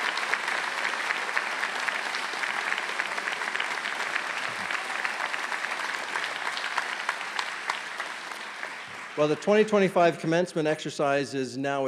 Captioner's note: cheers and Applause; eers and Applause